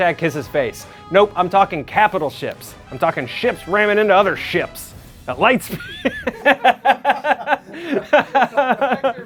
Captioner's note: laughs